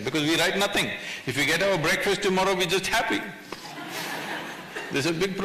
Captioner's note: few laugh